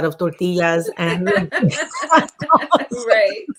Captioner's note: laughing